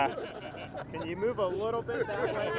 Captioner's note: crowd laughs